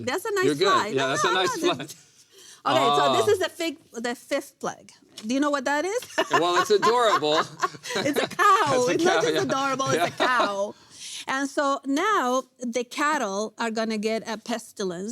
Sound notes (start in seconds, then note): 6.0 laughs